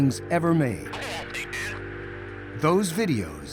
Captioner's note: man speaking on radio